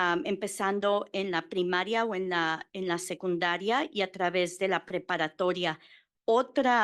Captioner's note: Spanish